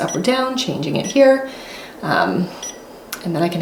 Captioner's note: press beeping